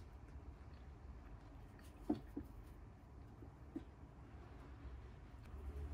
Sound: nibble

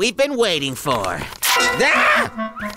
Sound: scream

